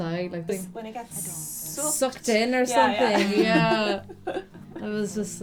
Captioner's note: laughter